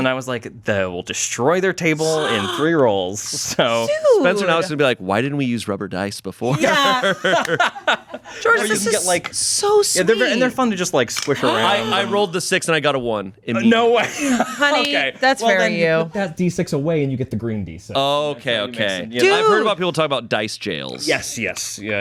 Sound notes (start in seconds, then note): 6.5 everyone laughs; 13.7 laughs